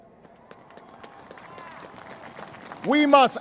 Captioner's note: applause